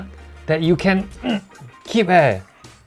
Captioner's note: hnggh